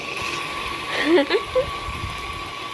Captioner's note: laughing